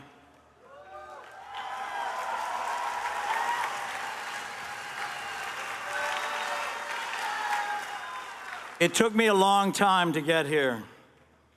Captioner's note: cheers and applause